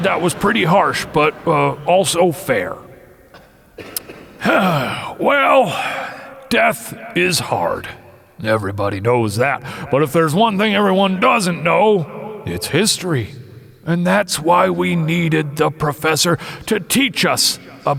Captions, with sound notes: I said that was pretty harsh, but also fair. (The Propeller clears throat) Well, death is hard, everybody knows that. But if there's one thing everyone doesn't know, its history. And that's why we needed The Professor- to teach us